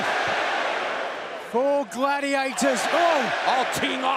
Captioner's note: crowd cheering